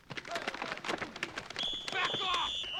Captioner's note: whistle blows